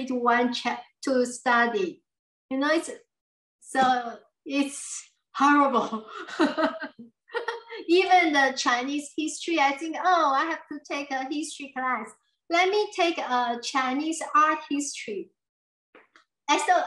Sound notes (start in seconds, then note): 6.2 laughs